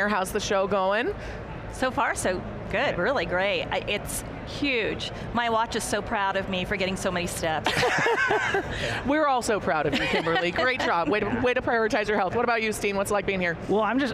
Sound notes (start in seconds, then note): 7.6 panelists laughing